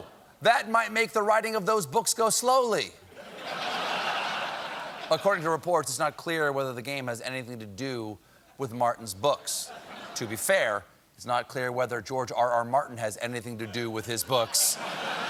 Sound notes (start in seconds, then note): 3.1 laughter